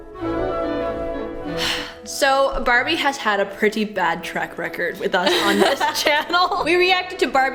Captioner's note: sigh